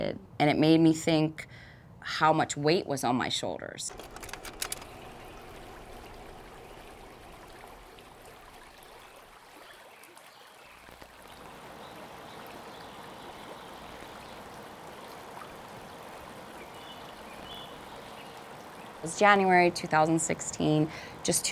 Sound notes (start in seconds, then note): 3.9 projector clicking; 4.4 water flowing